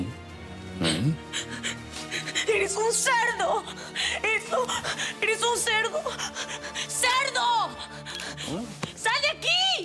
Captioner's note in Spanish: Ella solloza